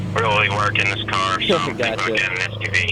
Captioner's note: laugh